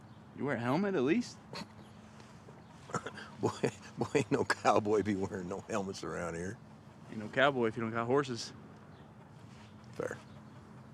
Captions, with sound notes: - You wear a helmet at least? - (scoffs) Boy, boy, ain't no cowboy be wearing no helmets around here. - Ain't no cowboy if you don't have horses. - Fair.